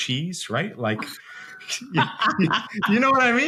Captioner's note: laughs